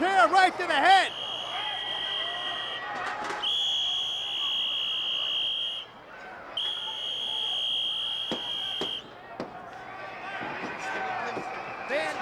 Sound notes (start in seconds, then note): 3.4 whistle trills; 3.8 crowd murmuring